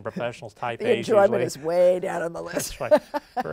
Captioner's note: laughs